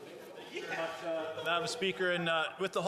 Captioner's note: laughter